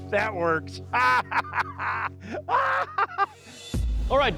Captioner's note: maniacal laugh